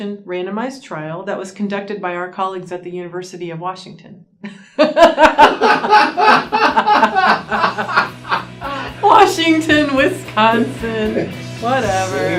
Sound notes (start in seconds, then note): 4.4 laughter